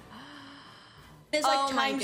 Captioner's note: gasp